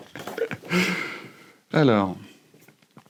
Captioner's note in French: rires